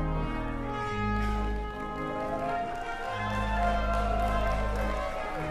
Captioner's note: cheering, applause